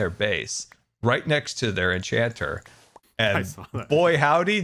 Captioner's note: laughing